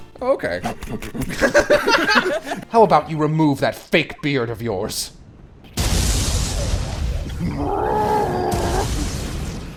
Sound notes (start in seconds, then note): 0.7 laughter